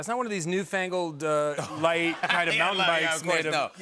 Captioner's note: laughter